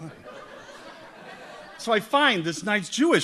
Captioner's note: audience laughs